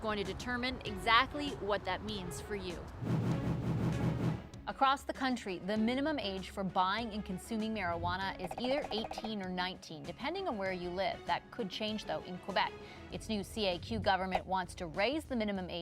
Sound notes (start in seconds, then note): 3.0 whoosh